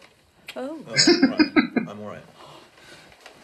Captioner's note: chuckling